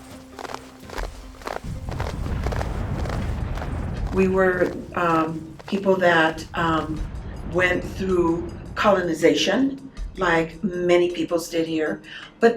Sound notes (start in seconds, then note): 0.0 footsteps march; 1.6 distant explosions